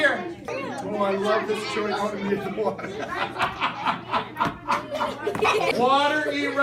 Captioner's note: all giggling